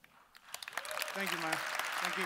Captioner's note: audience cheering